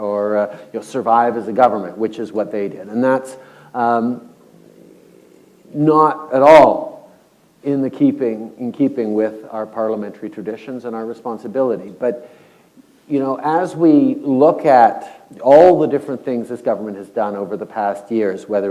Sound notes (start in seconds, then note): none